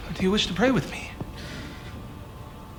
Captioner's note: sighs